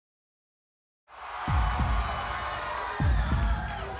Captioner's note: applause